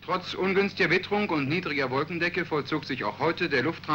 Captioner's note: speaking german